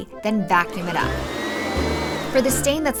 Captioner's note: motor whirring